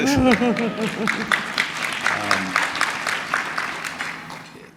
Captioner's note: audience clapping